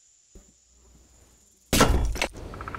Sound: clang

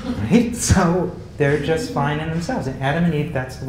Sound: laugh

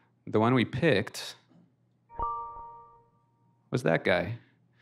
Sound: ringtone

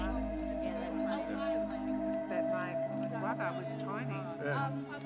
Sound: people chattering

